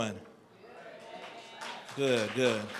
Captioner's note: applause